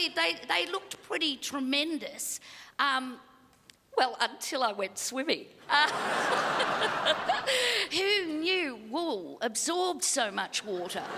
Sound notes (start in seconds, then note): 5.7 crowd laughs